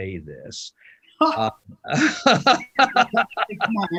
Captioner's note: laughter